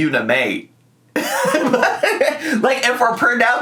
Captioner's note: laughs